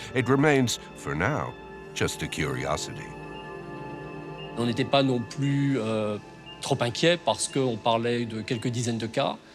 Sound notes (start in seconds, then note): 4.6 speaks in foreign language